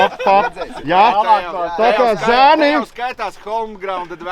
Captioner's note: arguing